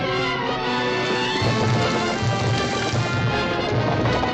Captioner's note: fire crackling